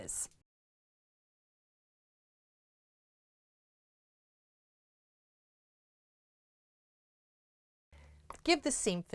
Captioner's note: no Sound Present